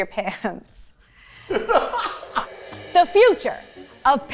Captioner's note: laughing